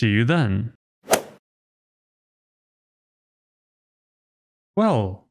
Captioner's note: golf ball hit sound effect